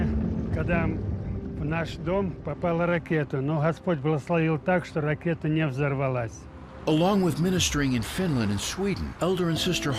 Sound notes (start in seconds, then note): 1.7 continues speaking in foreign language